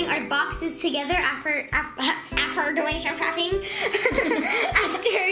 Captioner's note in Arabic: يضحك